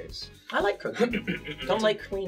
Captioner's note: clears his throat